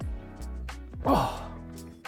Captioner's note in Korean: 아파하는소리